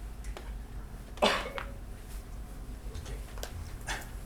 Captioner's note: coughing